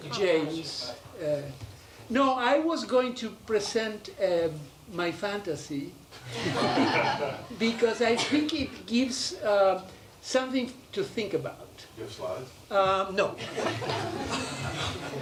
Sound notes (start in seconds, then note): 6.2 laughter; 13.4 laughter